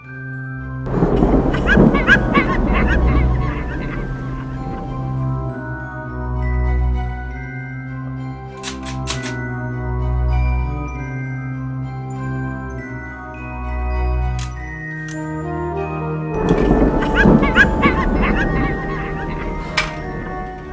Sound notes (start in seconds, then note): 0.8 thunder; 1.2 supernatural sounds; 16.3 thunder; 16.7 supernatural sounds